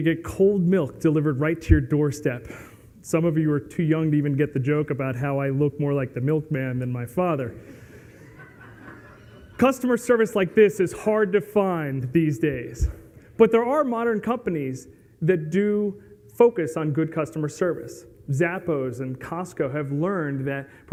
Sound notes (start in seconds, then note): 8.0 laughs